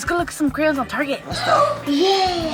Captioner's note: gasping